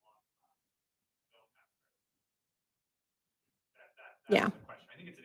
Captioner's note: indistinct conversation